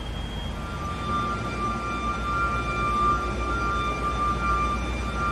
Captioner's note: alarms wailing